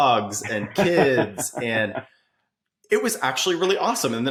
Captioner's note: laughing